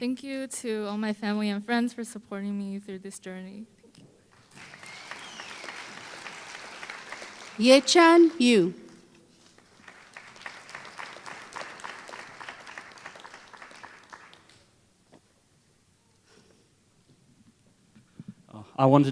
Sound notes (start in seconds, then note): 9.3 applause